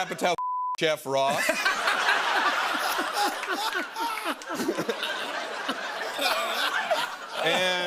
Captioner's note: laughter